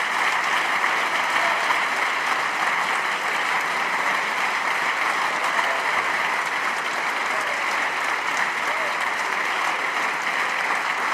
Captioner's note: applause